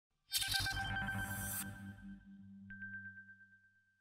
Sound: electronic sound

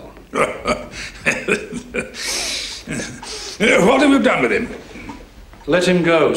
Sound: laughs

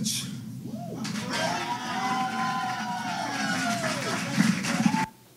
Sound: applause from video

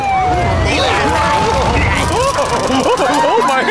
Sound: Ken doll screams confusedly; police sirens wail

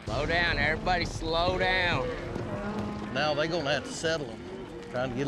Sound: cows mooing

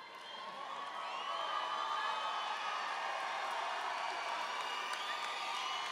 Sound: audience cheering and applauding

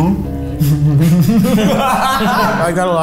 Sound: all laugh

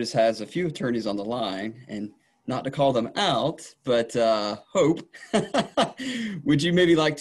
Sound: laughing

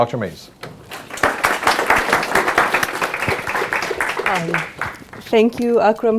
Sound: audience applauding

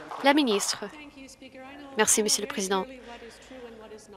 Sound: some Applause

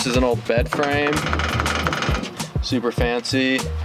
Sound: rattling sound

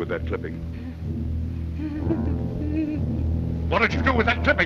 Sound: laughing nervously

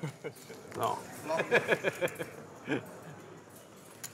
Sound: laughter

